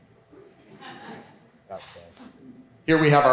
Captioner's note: woman laughs; speaks away from mic